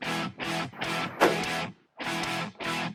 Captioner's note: gunshot